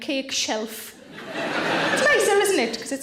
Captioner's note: audience laughing